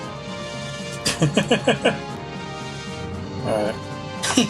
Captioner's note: laughs